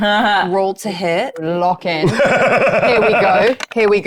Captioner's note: laughing